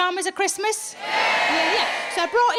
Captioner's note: audience cheers